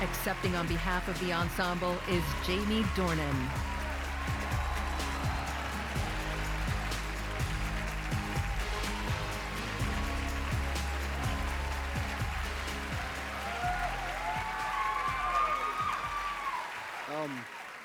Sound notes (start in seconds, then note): 1.3 applause